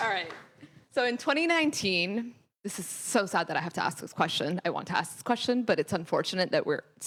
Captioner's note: applause